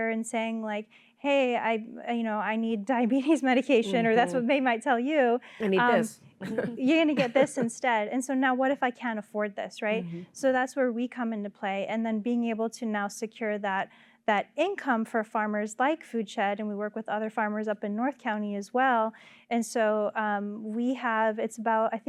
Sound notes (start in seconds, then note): 4.1 laughter